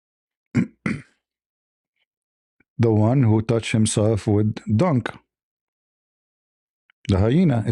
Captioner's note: clears throat and cough